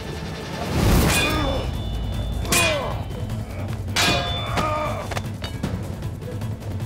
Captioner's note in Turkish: Savaş sesleri